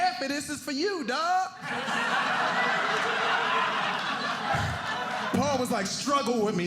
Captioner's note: audience laughing